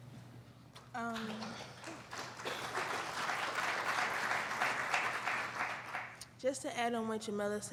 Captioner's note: applauding